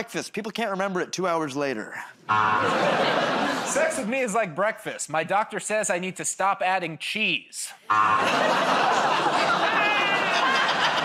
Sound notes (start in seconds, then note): 2.3 buzzer; 7.8 buzzer; 8.3 laughs